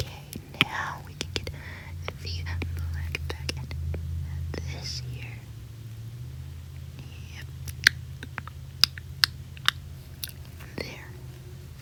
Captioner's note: smacking